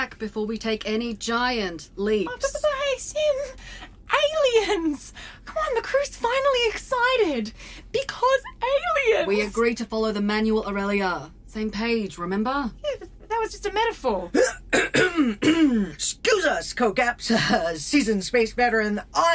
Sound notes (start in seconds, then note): 14.7 Dusty clears her throat